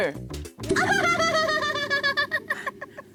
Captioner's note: laughter